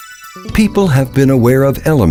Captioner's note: voiceover